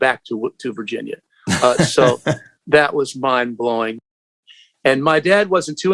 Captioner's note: laughter